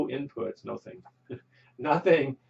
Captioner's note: chuckles